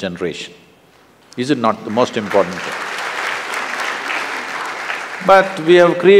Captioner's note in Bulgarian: Аплодисменти